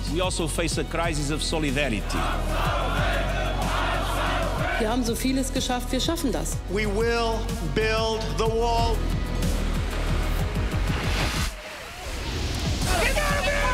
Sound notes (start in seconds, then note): 2.0 crowd chanting; 4.9 speaks in foreign language